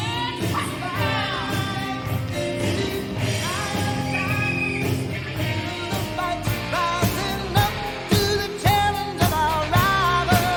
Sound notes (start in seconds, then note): 3.8 whistle blows